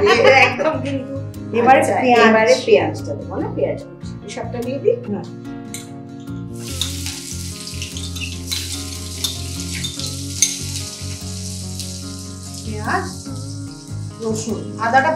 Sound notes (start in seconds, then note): 6.4 cooking sounds